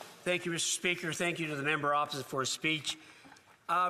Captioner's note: speaking French